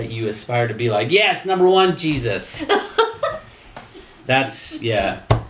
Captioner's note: laughing